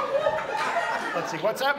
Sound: audience laughs

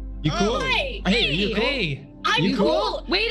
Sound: group chattering

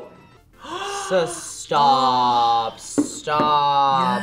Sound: gasps

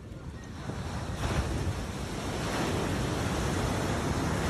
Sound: waves crashing

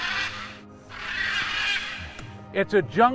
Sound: scarlet macaw chirping

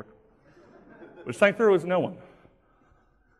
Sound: laughing

